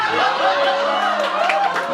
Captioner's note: audience Reaction